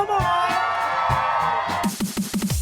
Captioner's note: cheering